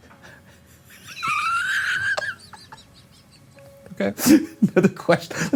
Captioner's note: laughs